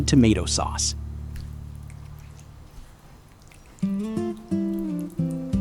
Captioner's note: sizzling